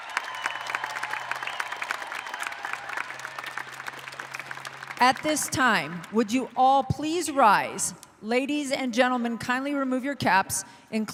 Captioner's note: applauding